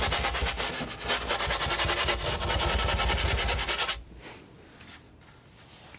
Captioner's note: scratching